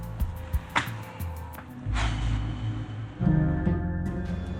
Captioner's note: popping; sinister music